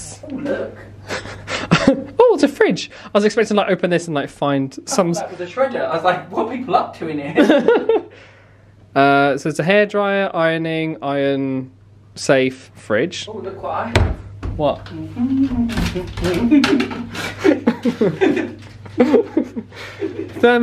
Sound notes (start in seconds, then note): 15.0 humming; 15.4 packaging rustling; 16.4 laughing